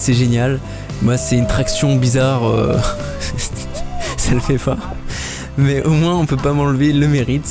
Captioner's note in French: rire